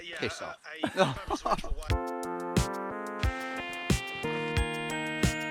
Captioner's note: both laughing